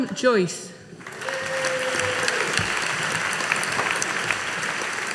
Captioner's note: audience applauding